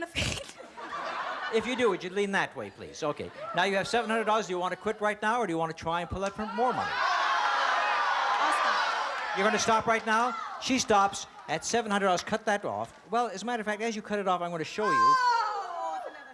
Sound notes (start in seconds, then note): 6.0 cheering